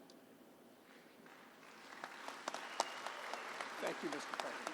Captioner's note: applause